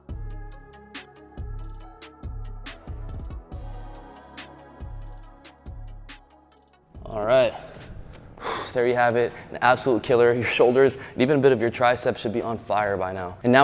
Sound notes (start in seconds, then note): 0.2 upbeat music; 7.4 exhales